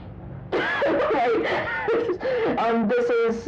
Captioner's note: laughter